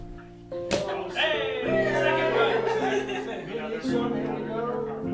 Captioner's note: crowd cheering